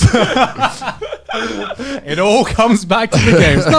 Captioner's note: hosts laughing